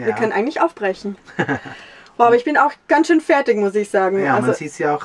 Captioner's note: laughs